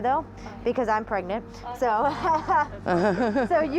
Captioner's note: laughs